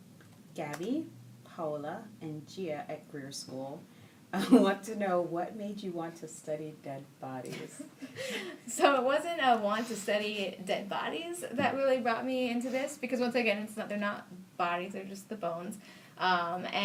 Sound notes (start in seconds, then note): 7.5 laughing